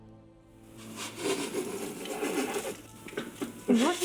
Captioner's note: laughing